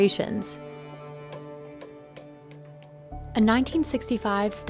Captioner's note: hammering